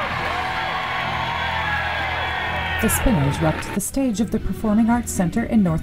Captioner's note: applause